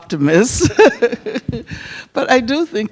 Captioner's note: Angela Davis and audience laugh